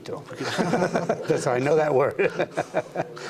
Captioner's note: laughter